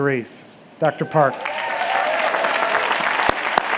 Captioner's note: applause